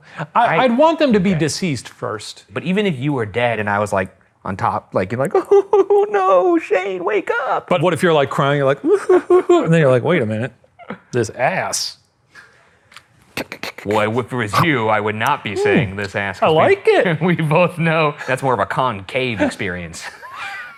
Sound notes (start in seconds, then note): 5.3 sobs; 8.8 sobs